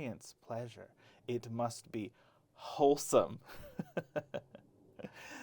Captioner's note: laughs